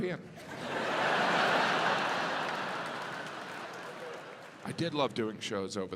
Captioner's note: audience laughs